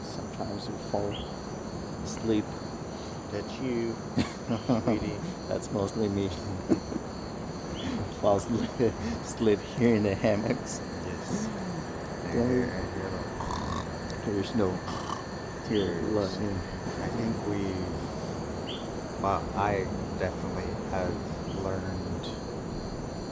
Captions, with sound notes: Sometimes we fall asleep. That's you sweetie. That's mostly me... who falls asleep here in the hammocks... Yes, then you go (snoring sound). There is no (snoring sound). You're lying. I think we've, well I definitely have learned...